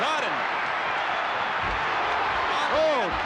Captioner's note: crowd cheering